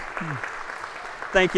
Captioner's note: applause